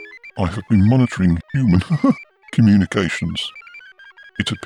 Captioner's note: laughs